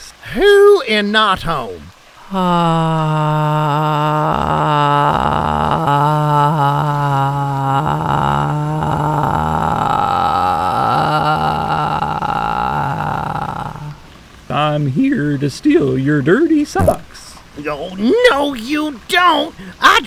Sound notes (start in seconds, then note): 2.5 donkey groans